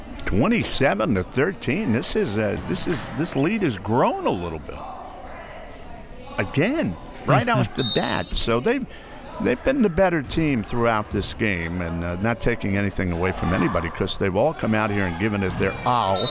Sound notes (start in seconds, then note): 7.8 whistle; 16.0 whistle